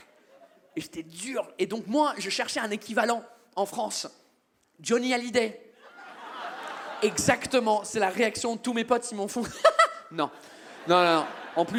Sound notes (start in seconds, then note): 6.1 audience cheers